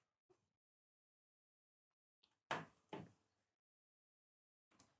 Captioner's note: Stille